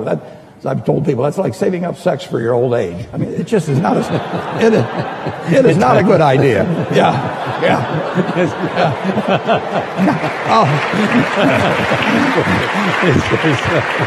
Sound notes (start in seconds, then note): 7.0 laughing and clapping